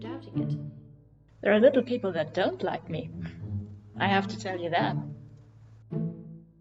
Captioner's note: smug